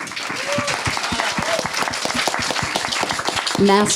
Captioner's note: audience clapping